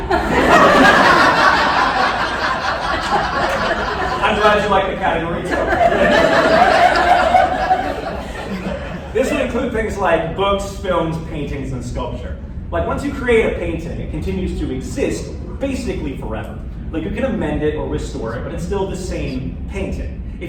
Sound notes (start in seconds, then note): 0.0 laughter